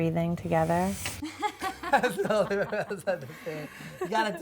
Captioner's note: laughs